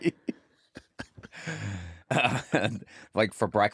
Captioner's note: laughter